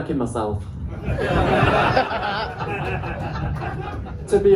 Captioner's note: laughter